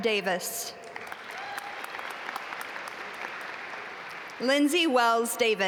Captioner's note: audience applaud